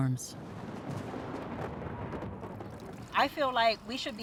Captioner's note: thunder rumbling